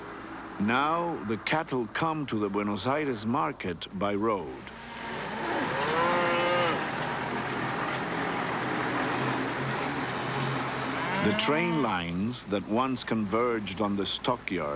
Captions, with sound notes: NOW, THE CATTLE COME TO THE BUENOS AIRES MARKET BY ROAD. ( cattle lowing ) THE TRAIN LINES THAT ONCE CONVERGED ON THE STOCKYARDS